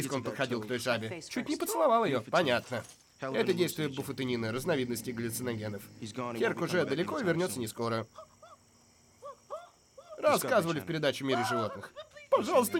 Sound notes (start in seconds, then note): 4.6 growling; 8.6 arthur whimpering